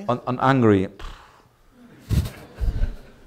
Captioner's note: scoffs